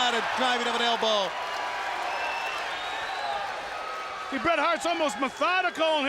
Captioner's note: applause